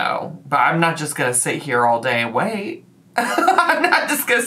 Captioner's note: laughs